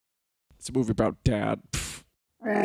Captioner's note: scoffs